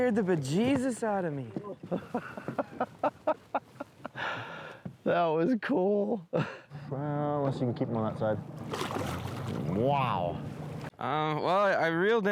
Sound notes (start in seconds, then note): 3.5 laughs